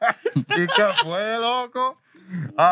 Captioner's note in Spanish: Riendo; Hablando en idioma extranjero